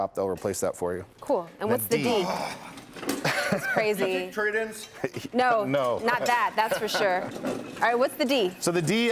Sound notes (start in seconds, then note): 0.8 laughter